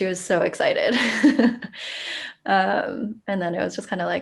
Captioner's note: chuckles